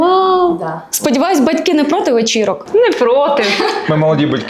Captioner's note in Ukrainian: сміх